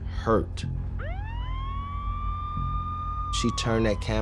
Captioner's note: sirens wailing